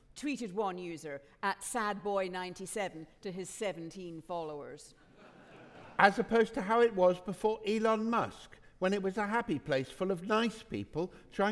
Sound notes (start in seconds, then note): 5.1 audience laughing